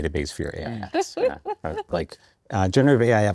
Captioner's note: chuckles